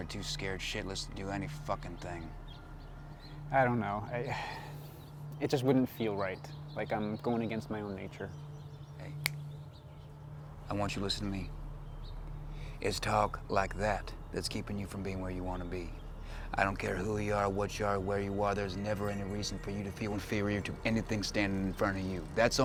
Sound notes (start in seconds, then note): 4.2 sighs; 9.2 fingers snap